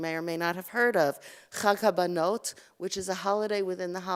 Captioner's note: Hebrew